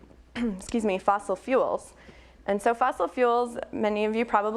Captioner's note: clears throat